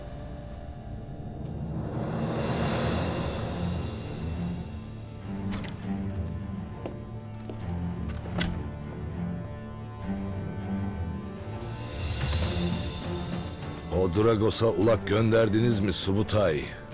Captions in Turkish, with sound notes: (Gerilim müziği) (Kapı açıldı) (Gerilim müziği) O Dragos’a ulak gönderdiniz mi Subutay?